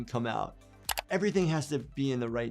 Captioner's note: keyboard keys clicking